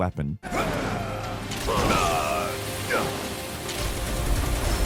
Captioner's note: characters grunting